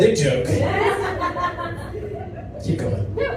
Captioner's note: audience laughs